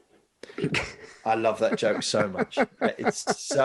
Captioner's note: laughing